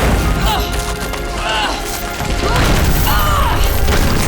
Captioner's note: grunting